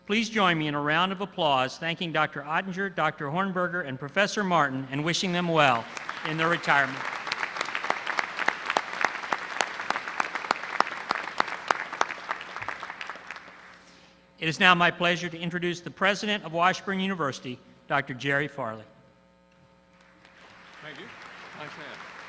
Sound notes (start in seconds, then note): 8.2 applause; 20.0 applause